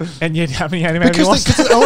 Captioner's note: murmurs